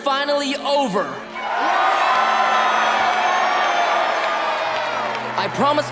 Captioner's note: cheering